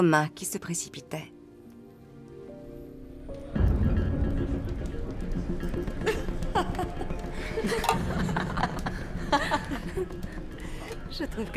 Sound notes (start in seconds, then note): 3.9 guests chattering; 3.9 guests laughing; 10.4 laughs